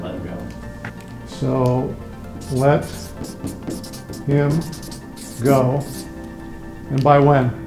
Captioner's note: marker scratching